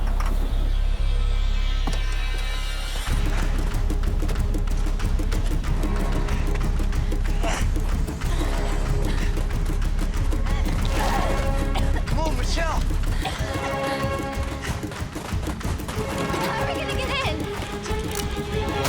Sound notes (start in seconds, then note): 11.0 grunts, coughing